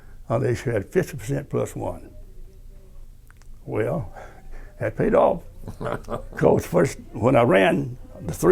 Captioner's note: laughter